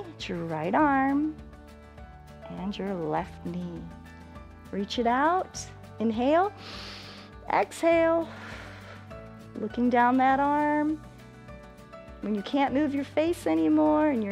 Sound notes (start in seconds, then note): 8.2 exhales; 8.3 inhales